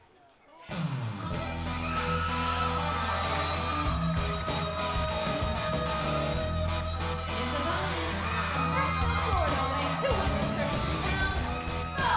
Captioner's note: crowd cheering